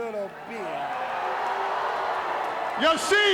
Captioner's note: crowd booing